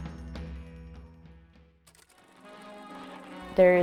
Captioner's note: vintage film projector sound